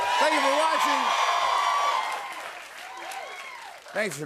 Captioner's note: cheers and applause